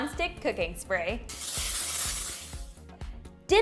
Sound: can sprays

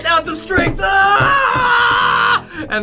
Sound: screams

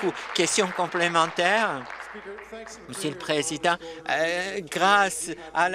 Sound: applause

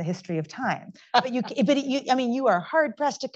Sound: laughs

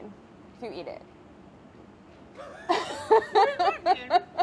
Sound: laughing

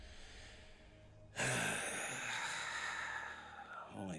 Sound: sighing

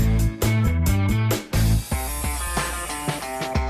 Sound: saw grinding

